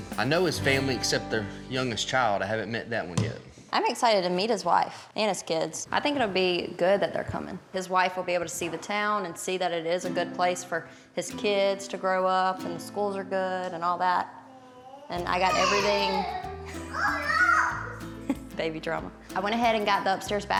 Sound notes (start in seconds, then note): 16.3 shouts; 18.2 laughs